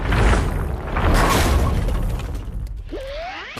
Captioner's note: Kinger and Gangle shouting